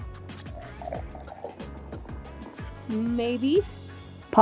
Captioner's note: water sloshing